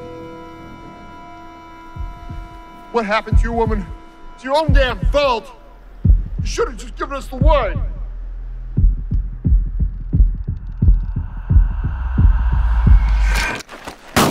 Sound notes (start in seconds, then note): 1.9 heartbeat thudding; 7.3 heartbeat thudding rapidly; 10.9 ghostly voice whispering